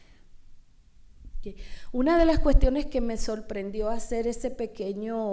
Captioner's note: speaking spanish